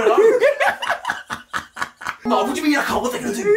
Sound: laughing

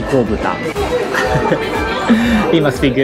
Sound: chuckle

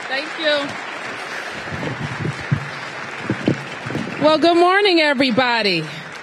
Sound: applause

